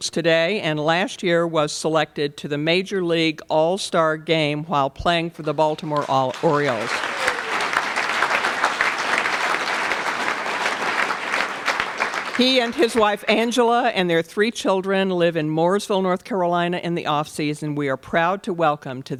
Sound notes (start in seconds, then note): 6.9 applause